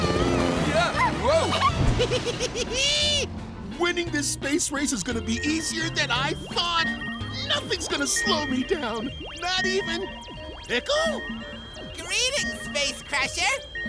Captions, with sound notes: Whoa! [giggling] Winning this space race is gonna be easier than I thought! Nothing's going to slow me down, not even... Pickle? Greetings Space Crusher!